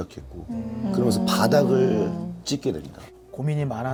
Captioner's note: haha